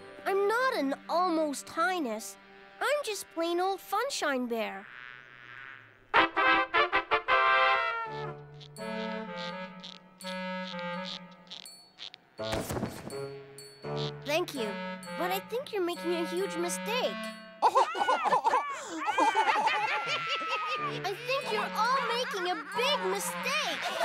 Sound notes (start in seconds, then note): 6.0 trumpets sound; 17.6 laughter; 23.7 hearty laughter